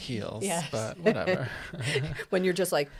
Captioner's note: laughs